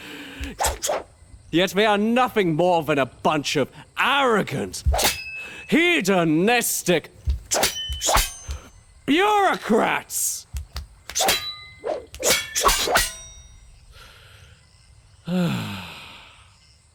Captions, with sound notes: [BLADES SLASHING] Yet we are nothing more than a bunch of arrogant... [BLADES SLASHING] hedonistic... [BLADES SLASHING] bureaucrats! [BLADES SLASHING] [Sighs]